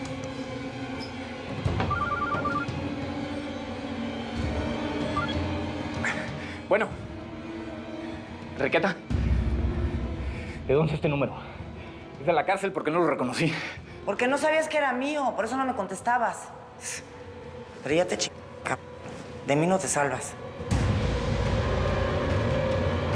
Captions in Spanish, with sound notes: [SUENA EL CELULAR] >> ¿BUENO? ¿ENRIQUETA? ¿DE DÓNDE ES ESTE NÚMERO? DE LA CÁRCEL, PORQUE NO LO RECONOCÍ. >> PORQUE NO SABÍAS QUE ERA MÍO, POR ESO NO LO CONTESTABAS. PERO YA TE CH---, C---, DE MÍ NO TE SALVAS.